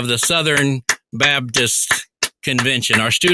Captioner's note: applauding